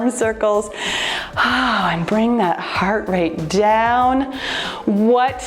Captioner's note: sighs